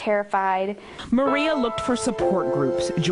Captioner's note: voiceover